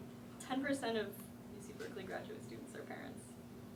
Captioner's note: voiceover